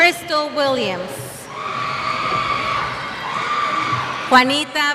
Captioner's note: cheers